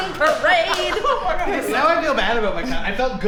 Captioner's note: laughter and clapping